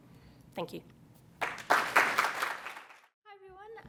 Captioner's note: applause